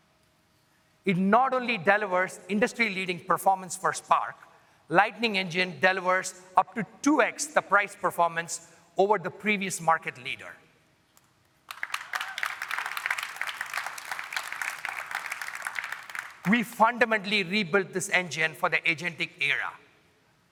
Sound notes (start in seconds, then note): 15.0 applause